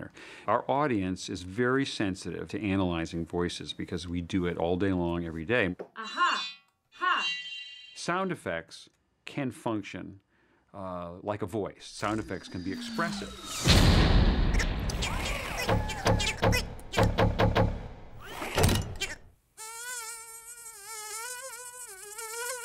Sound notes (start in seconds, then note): 13.3 crashing; 14.3 chattering; 16.5 banging; 19.6 sound of insect buzzing